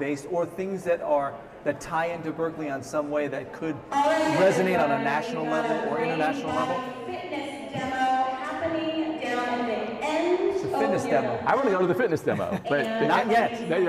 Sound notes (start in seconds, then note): 6.9 announcement over loudspeakers